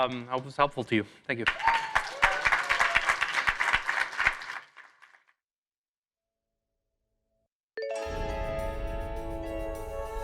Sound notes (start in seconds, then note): 1.3 applause